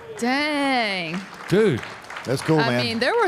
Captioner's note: audience applauding